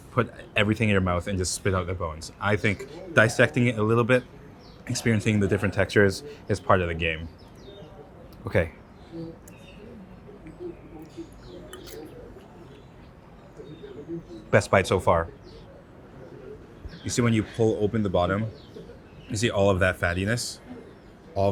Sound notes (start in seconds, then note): 9.3 patrons chatter; 11.8 fork scrapes